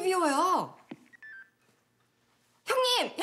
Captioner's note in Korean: 휴대전화 통화 종료음